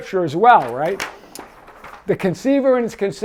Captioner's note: paper rustles